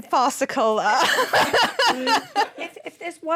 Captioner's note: laughter